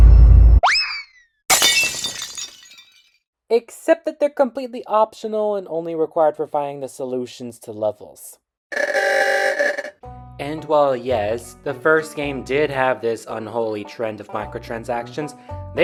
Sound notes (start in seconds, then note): 1.5 glass shattering; 8.7 vintage car horn blast